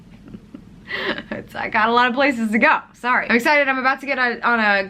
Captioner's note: laughs